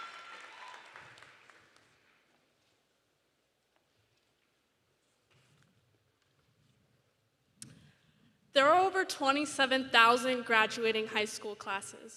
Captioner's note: cheering and applause